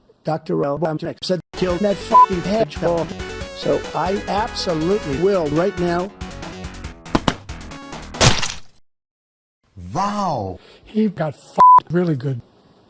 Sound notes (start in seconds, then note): 7.0 button click; 8.1 splat